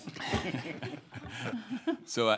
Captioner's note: audience laughing